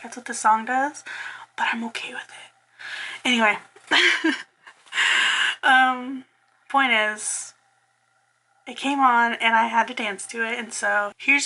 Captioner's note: laughs